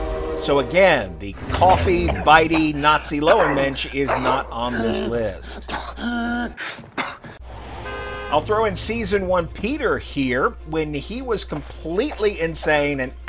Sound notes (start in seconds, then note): 5.2 pathetic coughing noises